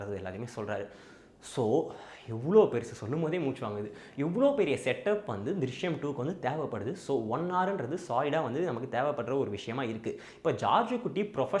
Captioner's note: inhales